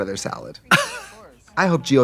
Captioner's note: Katya laughs